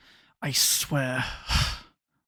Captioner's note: sighs